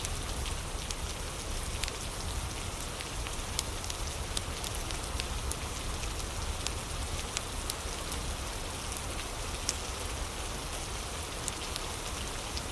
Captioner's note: fire crackling